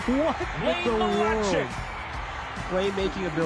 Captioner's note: laughter